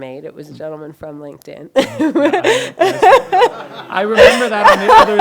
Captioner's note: laughs